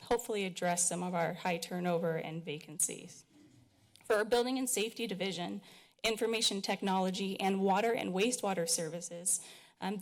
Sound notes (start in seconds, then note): none